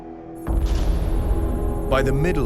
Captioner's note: computer beeping